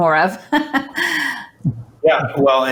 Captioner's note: chuckles